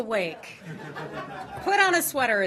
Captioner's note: laughter